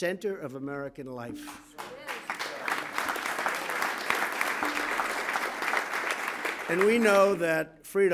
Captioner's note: applause